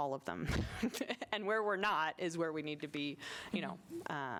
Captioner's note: laughter